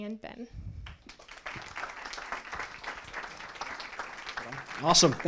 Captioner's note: applause